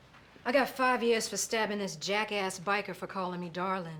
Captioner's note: none